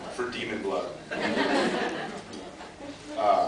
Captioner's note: laughs